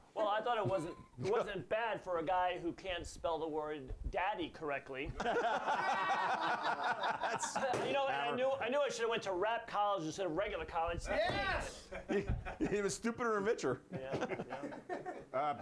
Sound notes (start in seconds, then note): 5.1 laughter